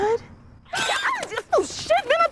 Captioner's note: eagle screeches